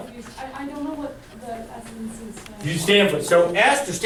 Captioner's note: voiceover